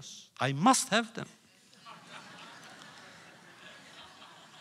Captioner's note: laughter